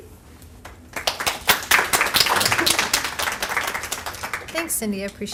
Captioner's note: applause